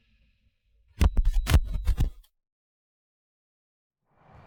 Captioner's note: mechanical clicking